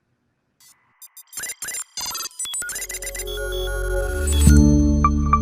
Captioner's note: logo chiming